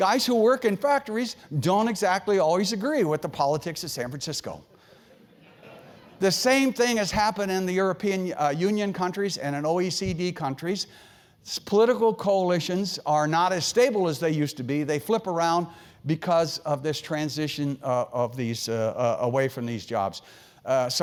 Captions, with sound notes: Guys who work in factories don't exactly always agree with the politics of San Francisco. >> [LAUGH] >> The same thing has happened in the European Union countries and OECD countries. Political coalitions are not as stable as they used to be. They flip around because of this transition away from these jobs.